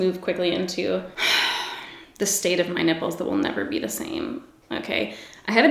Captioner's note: sighs